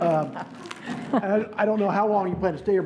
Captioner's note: laughing